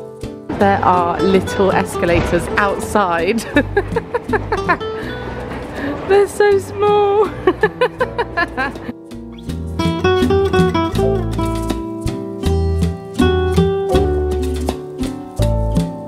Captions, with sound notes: There are little escalators outside (laughing). They're so small (laughing). (relaxed Spanish guitar music)